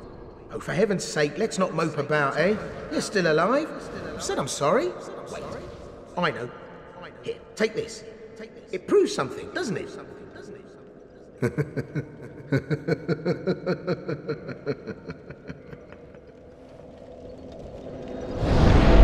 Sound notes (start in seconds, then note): 11.3 menacing laughter